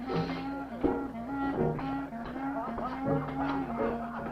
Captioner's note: voices clamoring